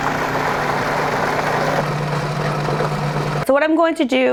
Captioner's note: machine whirring